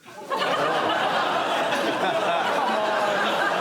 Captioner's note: laughter and groans